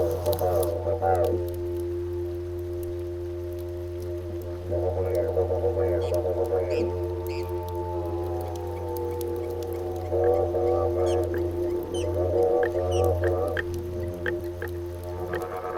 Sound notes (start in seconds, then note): 1.5 fire crackling lightly